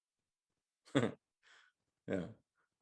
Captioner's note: chuckles